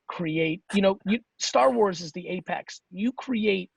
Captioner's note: none